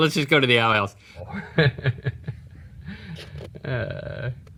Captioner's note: laughs